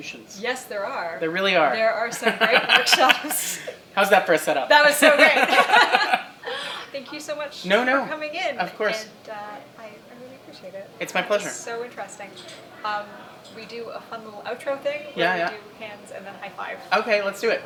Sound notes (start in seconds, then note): 2.1 laughter; 5.0 laughter